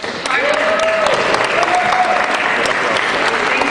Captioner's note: cheering